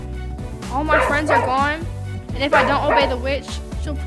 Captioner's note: Toto barking